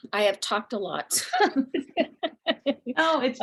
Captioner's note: laughter